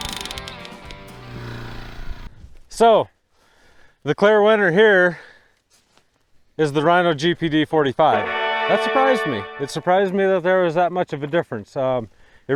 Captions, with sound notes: So the clear winner here is the rhino GPD 45. (Celebration sound) That surprised me. It surprised me that there was that much of a difference.